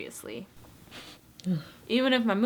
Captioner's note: sniffing